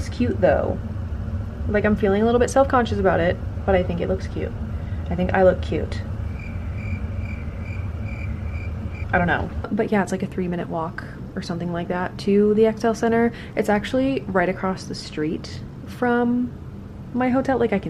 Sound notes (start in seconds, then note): 6.1 crickets